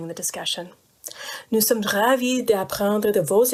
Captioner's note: speaking french